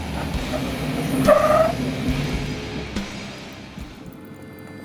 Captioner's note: tires screech